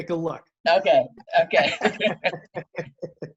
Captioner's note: laughs